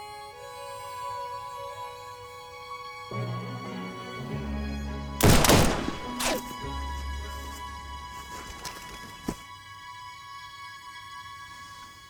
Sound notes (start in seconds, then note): 5.2 gunshots banging